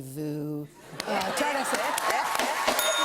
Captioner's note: cheering; ding